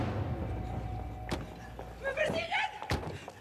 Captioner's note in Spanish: ruido de las puertas